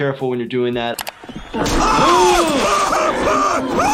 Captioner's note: Joe groaning in pain; gasps